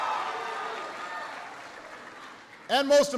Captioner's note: applause